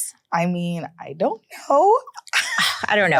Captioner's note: laughs